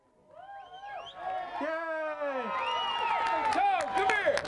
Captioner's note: crowd cheers and applause